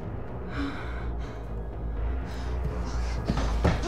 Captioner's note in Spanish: Respirando profundamente